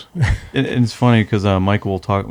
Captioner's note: laughs